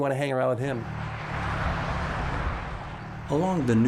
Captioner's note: car zooms past